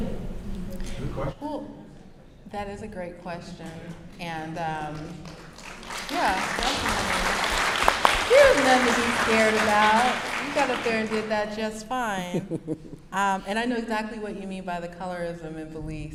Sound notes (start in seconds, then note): 7.1 applause